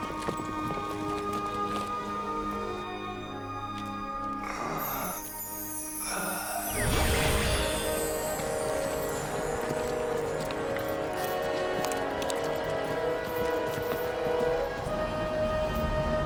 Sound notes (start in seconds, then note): 6.1 wooshing; 9.0 horses walking; 11.4 dramatic orchestral music